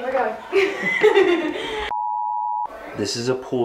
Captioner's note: laughs